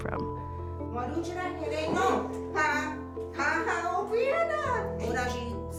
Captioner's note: speaking Ho-Chunk